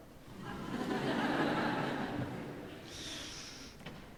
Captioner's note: audience laughing